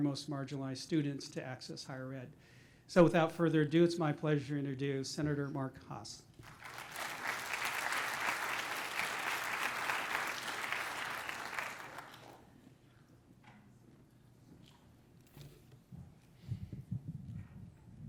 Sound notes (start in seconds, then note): 6.4 applause